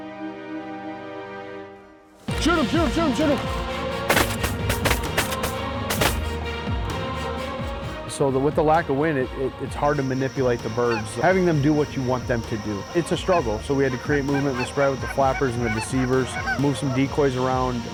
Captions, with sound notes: >>SHOOT 'EM, SHOOT 'EM (GUN SHOTS) >>SO WITH THE LACK OF WIND, IT'S REALLY HARD TO MANIPULATE THE BIRDS. HAVING THEM DO WHAT YOU WANT THEM TO DO. IT'S A STRUGGLE. SO WE HAD TO CREATE MOVEMENT IN THE SPREAD WITH THE FLAPPERS AND THE DECEIVERS MOVE SOME DECOYS AROUND